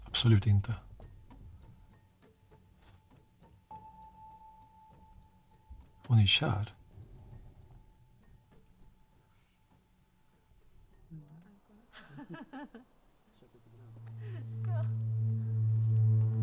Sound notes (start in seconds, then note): 3.7 ambient music with a forbidding chime; 11.7 laughing; 13.6 threatening ambient music